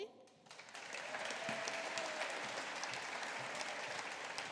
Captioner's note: audience applauding